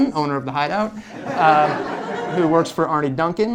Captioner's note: laughter